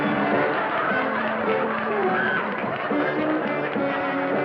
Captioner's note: laughter